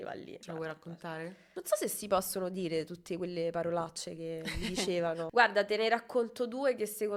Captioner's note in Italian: risate